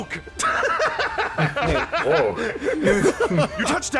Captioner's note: laughter